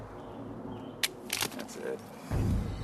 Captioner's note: gun clicks